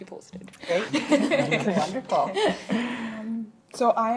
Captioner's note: laughing